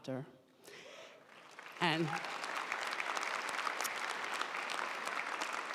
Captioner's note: audience applauding